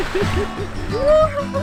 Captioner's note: water splashing